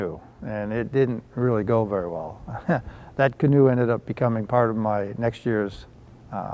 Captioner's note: laugh